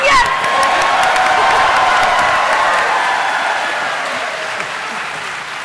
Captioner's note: cheering